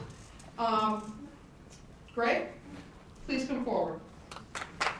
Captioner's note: applause